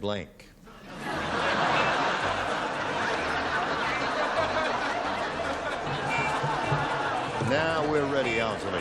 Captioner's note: laughter